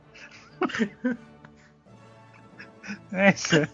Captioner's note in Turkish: kahkaha